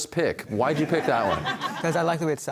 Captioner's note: audience laughter